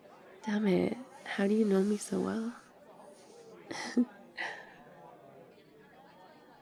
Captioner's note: laughs